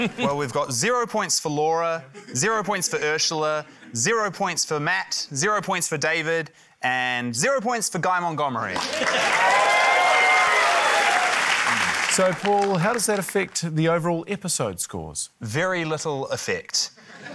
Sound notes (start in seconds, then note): 8.7 cheering, applause